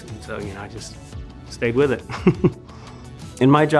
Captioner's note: laughs